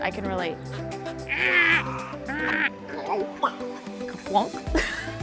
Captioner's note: imitating bird; laughs